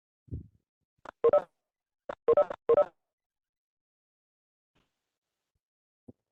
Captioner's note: pause